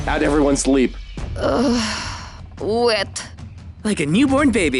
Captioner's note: sighs